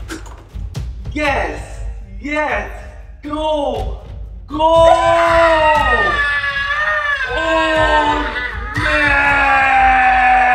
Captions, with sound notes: Yes! Yes! Go! GO! (screaming) OLD MAN!!